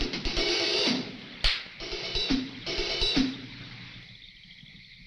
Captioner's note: tense music; slaps; tense music